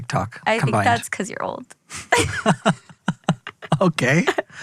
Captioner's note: both laughing